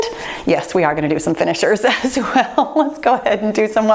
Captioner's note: laughs